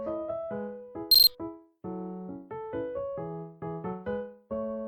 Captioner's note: beep-beep-beep